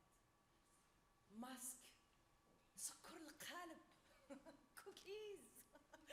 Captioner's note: speaks Arabic; laughs